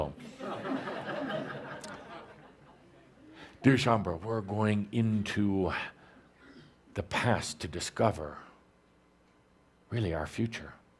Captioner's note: laughter